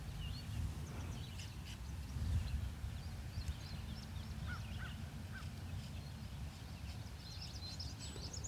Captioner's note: birds chirping